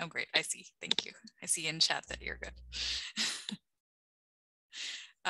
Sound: laughing

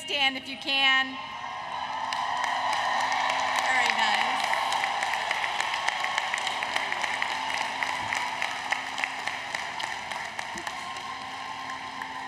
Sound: applause, Cheering

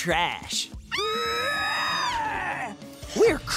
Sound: screaming

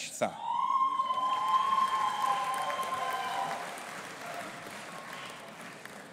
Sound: audience applauding and cheering

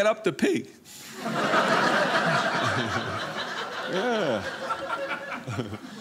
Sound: audience laughing

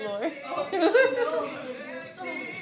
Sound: laughter

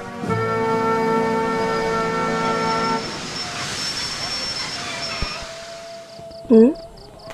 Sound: distant Takbir and Firecracker noises

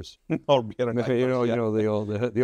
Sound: laughs

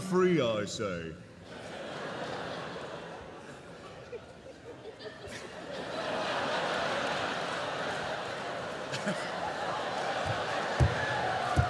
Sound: laughter

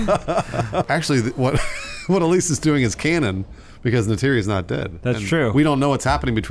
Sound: laughter

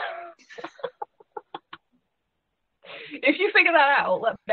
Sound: laughing

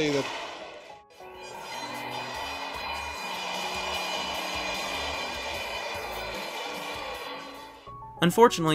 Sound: crowd Cheering and Horns Honking

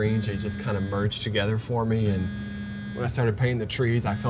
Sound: phone vibrates

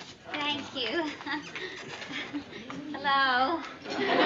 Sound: giggles

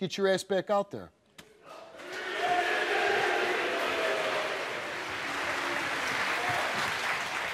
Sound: audience applauding

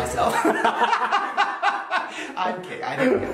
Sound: Shane and crew laughs

